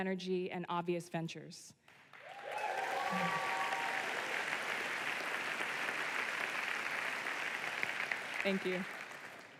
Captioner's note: applause